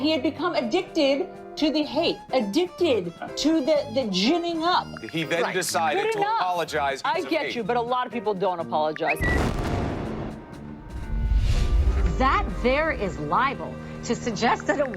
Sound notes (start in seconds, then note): 9.2 bomb exploding; 9.3 bird tweeting